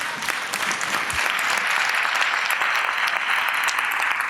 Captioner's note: audience applause